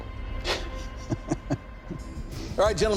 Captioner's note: laughs